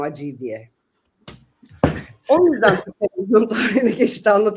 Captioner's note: kahkaha